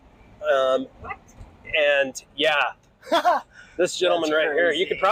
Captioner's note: chuckles